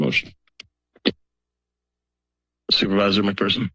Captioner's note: silence